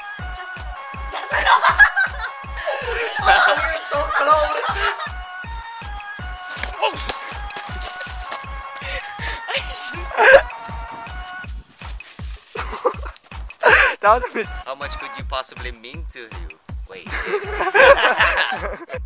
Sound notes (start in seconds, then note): 1.1 laughter; 6.6 groans; 12.5 laughs; 17.1 laughter